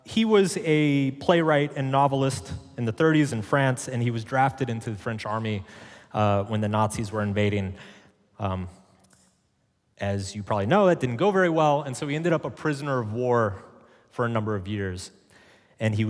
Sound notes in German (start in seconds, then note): none